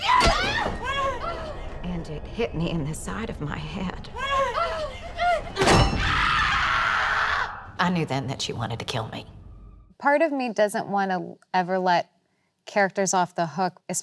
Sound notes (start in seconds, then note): 0.0 both crying; 5.9 Candy screaming